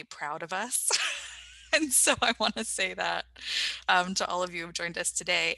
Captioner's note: laughs